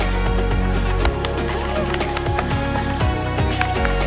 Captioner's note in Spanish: Aplausos